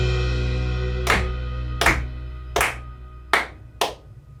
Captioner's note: clapping